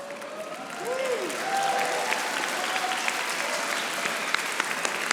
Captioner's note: audience applauding